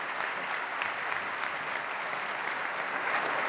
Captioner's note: applause